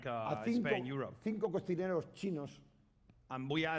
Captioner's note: speaking spanish